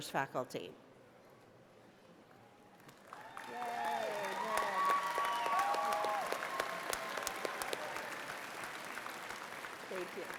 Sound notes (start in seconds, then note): 2.9 applause